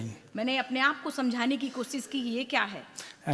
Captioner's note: speaks foreign language